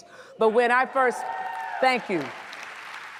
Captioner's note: audience cheers; audience applauds